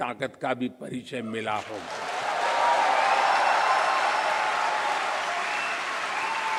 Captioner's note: applause